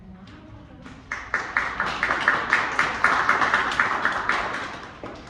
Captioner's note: audience applauds